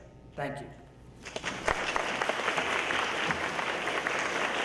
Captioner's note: audience applauds